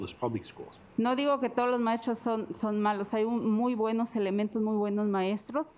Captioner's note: speaking Spanish